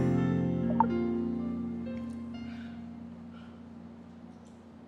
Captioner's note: cellphone clicking